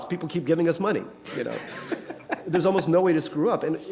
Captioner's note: laughter